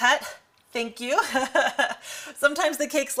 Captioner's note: laughs